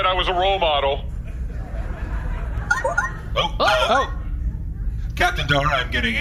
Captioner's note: communicator chimes